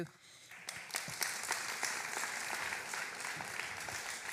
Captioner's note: applause